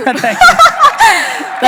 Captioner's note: laughing